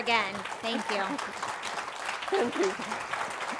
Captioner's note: applause